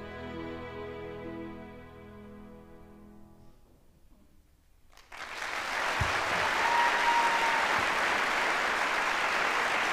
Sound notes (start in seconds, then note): 4.9 audience applauds